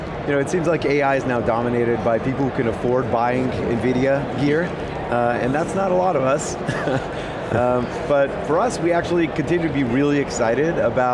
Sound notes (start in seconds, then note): 6.6 laughs